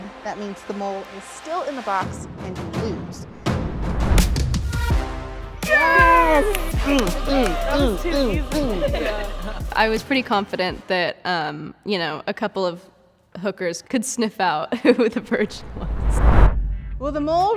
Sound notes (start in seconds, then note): 3.6 intense music playing; 5.6 cheering